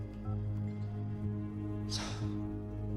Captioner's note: sighing